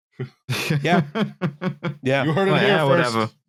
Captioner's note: chuckles